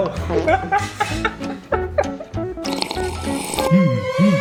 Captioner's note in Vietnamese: tiếng cười